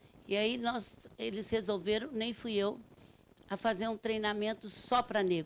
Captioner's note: speaking Portuguese